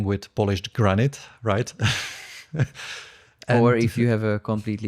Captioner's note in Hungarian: nevetés